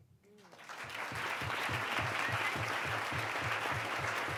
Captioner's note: applause